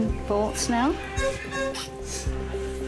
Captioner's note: squeaking